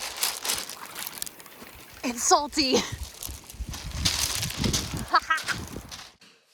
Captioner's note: cackles